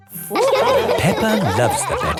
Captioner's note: all laughing